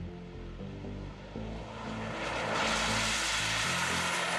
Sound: car whooshing

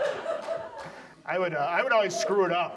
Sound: audience laughs

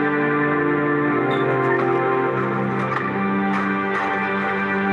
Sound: gate squeaking

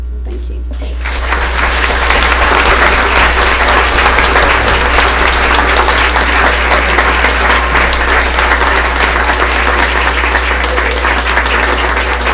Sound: applause

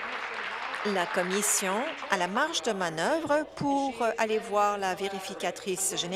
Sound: applause

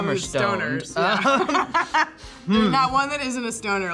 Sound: both laugh

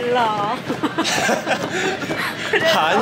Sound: such a sad laugh

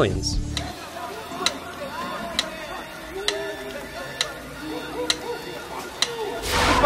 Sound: yelling in distance

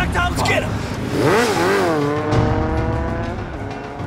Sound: motorcycle revving

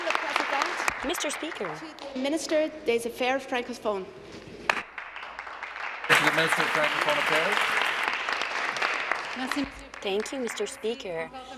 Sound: applause

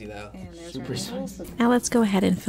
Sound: laughs

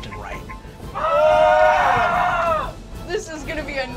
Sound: group screams

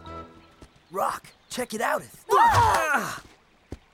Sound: grunts

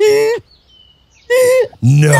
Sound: laughing

